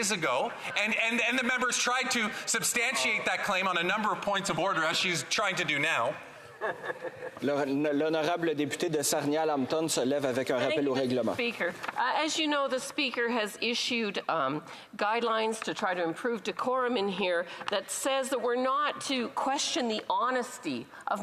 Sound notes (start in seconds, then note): 12.1 speaking French